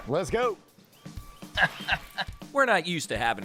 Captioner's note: laughing